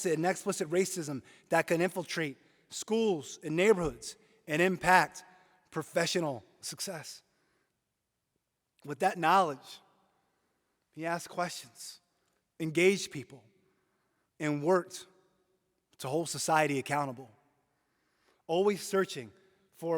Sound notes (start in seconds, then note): none